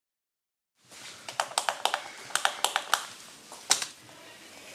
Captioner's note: pen clicks